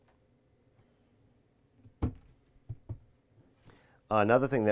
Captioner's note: cabinet thudding